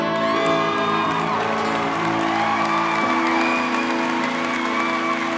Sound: cheering and applause

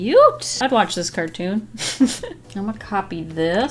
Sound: giggles

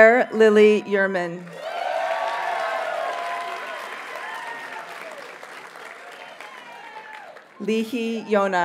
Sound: audience cheers and applauds

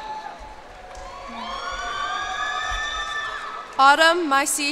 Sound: cheers and applause

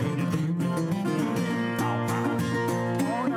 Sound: in deep voice

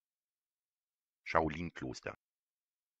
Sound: fast Pronunciation

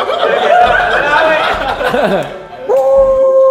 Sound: group laughs

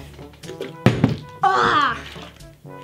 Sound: bottle landing

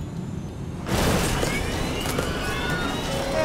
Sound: plane rattles; passengers screaming

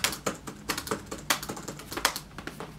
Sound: typing intensifies

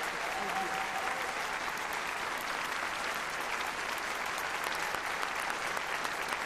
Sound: applause

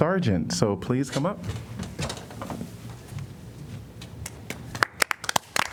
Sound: applause

